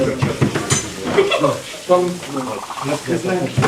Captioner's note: medical personnel chatter